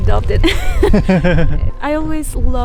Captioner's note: laughs